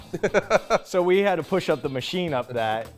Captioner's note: chuckles